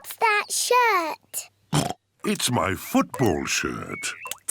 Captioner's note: oinks